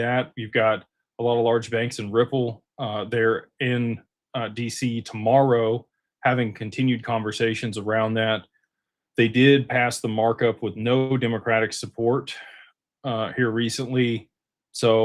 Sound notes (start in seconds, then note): none